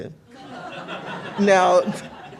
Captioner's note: laughter